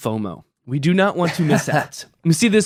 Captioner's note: laughing